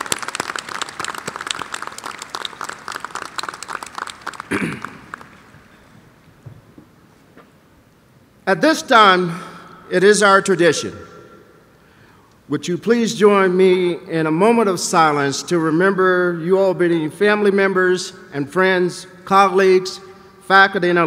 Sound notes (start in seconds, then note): 3.7 applause